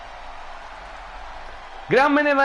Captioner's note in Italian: Applauso